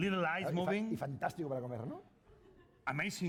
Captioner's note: speaking spanish